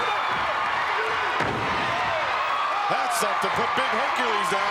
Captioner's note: crowd cheering